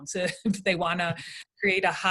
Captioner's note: laughing